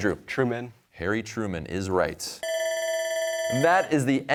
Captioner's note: bell ringing